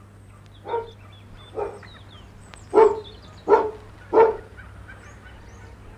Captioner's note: dog barks